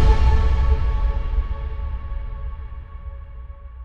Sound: none

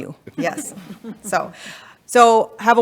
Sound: board members chuckling

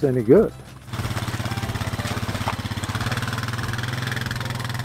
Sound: four wheeler engine revving

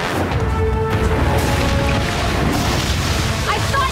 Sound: flames roar; water splashes

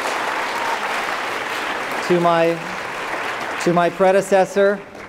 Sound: applause

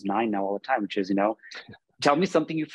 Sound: chuckles

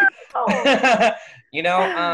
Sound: cheering

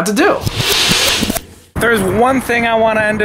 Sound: curtains snapping

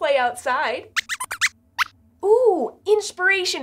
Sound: squeaks squeaks

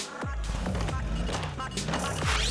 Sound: vroom x3

